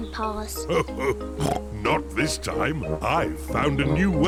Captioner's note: snorts; laughs